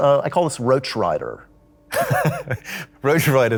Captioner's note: Henry laughs